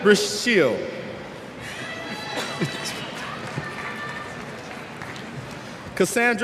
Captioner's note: cheers